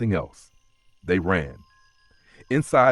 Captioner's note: pause